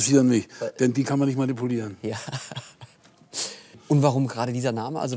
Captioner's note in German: lachend